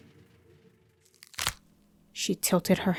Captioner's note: cracking sound